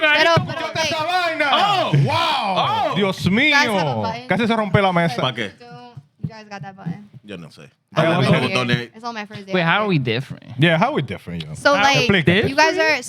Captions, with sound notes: Wow. (Speaking In Foreign Language) You guys got that button? Yeah, no say. I don't know. It's on my first date. Wait, how are we different? Yeah, how are we different? So like, you guys are--